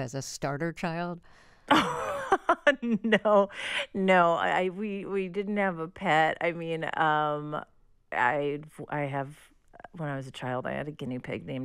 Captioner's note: laughter